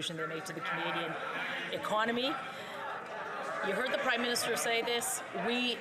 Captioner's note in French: voix de l'interprète